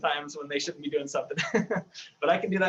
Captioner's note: laughs